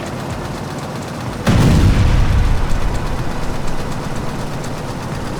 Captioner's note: explosion bangs